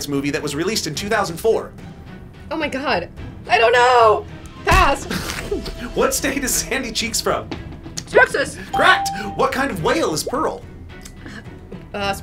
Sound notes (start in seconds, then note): 5.0 stamp thuds; 5.0 laughing; 8.7 electronic bell chimes